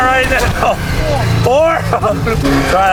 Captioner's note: chuckles